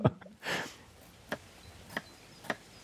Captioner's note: soft chopping sounds